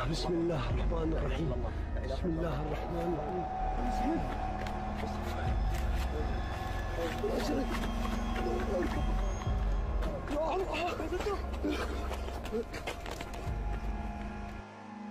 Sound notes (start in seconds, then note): 5.8 panting; 5.8 pattering; 10.4 shouting